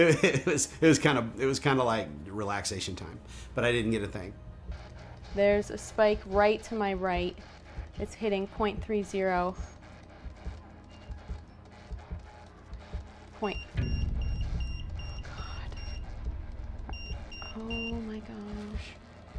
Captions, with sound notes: It was. It was kind of. It was kind of like relaxation time, but I didn't get a thing. There's a spike right to my right. [spirit box scanning] It's hitting point three zero. Point. [EMF beeping] Oh, God. Oh my gosh.